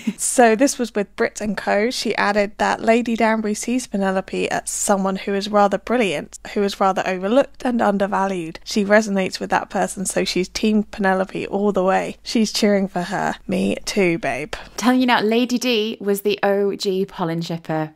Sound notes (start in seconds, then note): none